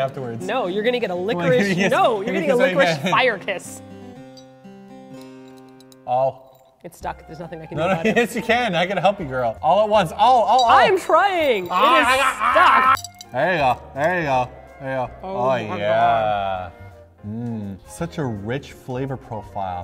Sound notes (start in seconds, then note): 11.9 reprise: eating noises